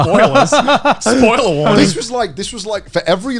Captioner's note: both laughing